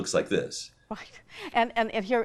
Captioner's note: laughs